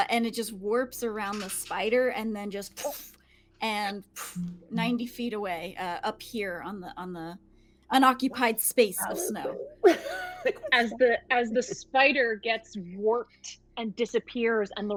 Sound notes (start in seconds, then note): 4.2 imitates whooshing